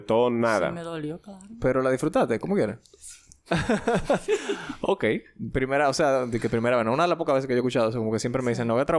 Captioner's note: laughs